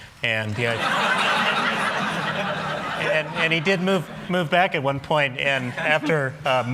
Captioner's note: laughter